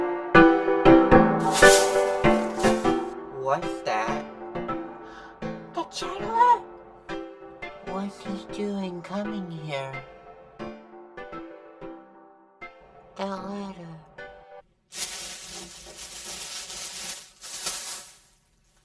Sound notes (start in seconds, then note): 5.0 gasp